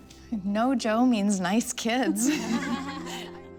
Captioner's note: laughter